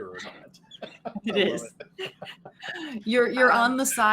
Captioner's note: Silas laughing